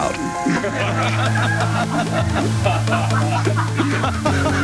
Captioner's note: people laughing